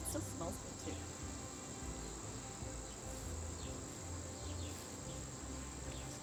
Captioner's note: birds chirping